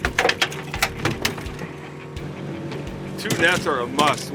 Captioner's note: fish thrashing